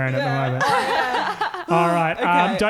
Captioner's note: laughing